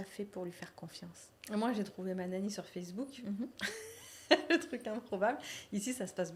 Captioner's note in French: rires